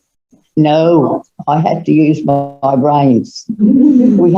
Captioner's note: giggling